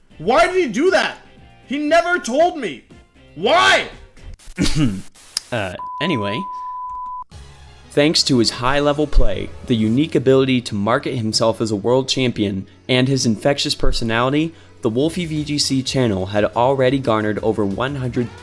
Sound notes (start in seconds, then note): 4.5 ahem; 4.9 Static